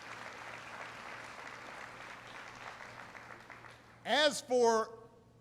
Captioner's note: applause